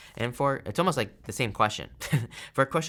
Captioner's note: chuckles